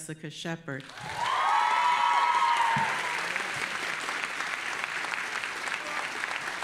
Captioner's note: audience applauding and cheering